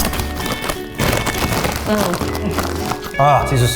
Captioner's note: crunching